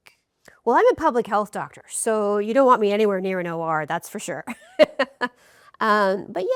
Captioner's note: laughs